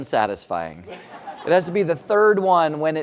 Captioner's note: laugh